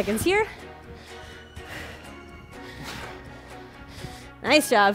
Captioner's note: upbeat music; breathes heavily